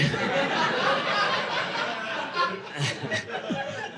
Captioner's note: audience laughing